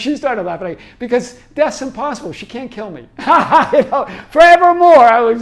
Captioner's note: laughs